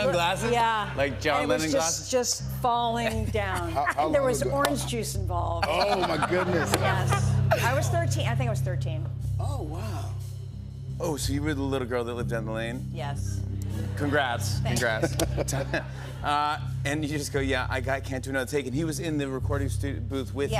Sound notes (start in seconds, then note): 14.7 laughter